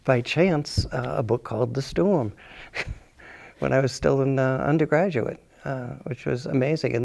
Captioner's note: chuckles